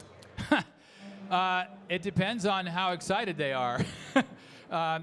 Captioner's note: chuckling; chuckling